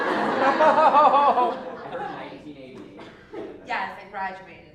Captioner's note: laugh